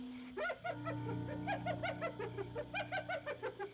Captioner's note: hyena Laughing